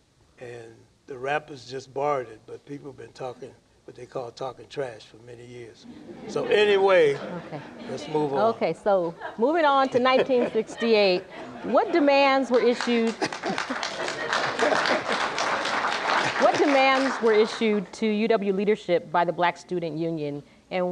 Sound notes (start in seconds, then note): 5.9 laughter; 12.4 applause; 14.5 laughter